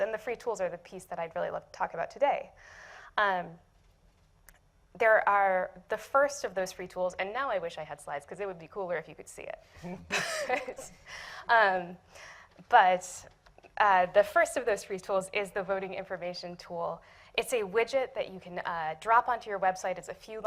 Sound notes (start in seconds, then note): 9.8 laughs